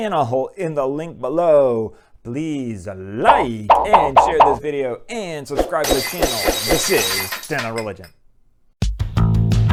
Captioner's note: glass breaking